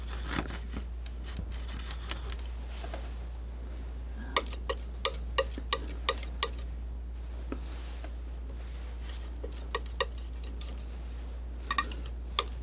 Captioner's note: scratching